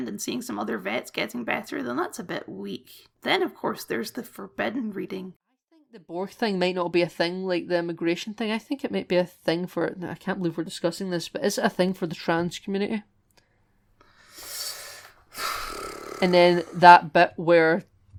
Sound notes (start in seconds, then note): 14.1 heavy Sigh